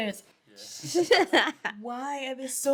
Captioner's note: laughing